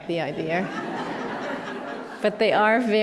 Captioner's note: laughter